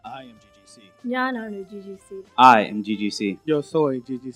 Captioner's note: in Malayalam